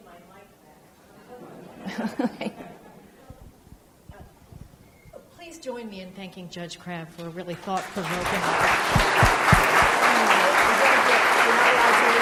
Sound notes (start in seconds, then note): 1.2 audience laughs; 7.6 audience claps loudly